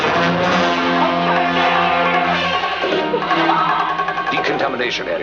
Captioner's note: grunhidos